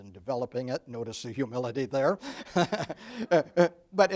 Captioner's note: laughs